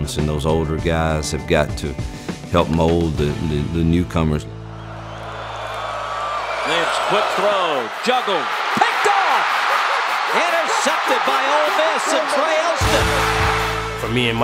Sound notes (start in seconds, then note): 4.4 crowd cheers; 6.8 voiceover